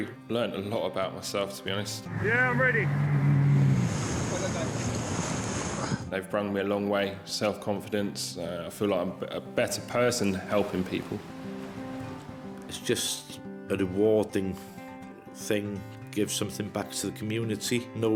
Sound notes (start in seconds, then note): 2.0 boat engine revving; 4.2 waves crashing; 11.8 gentle music